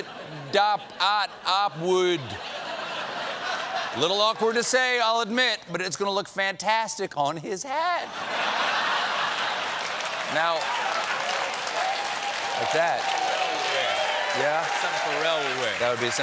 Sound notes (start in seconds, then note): 0.0 laughter; 8.9 cheers and applause